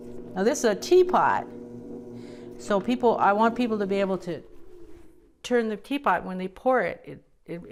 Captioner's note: none